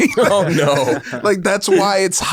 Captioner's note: both laugh